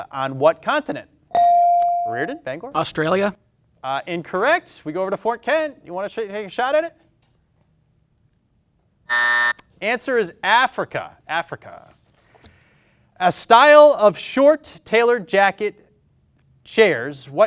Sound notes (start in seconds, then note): 1.3 bell dings; 9.1 buzzer beeps